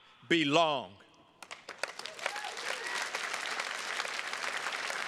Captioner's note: attendees clapping